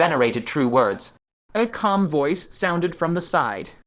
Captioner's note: A calm voice sounded from the side